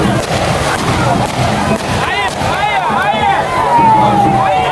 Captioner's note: gun shot